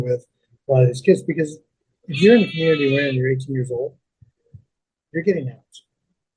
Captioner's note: sheep bleating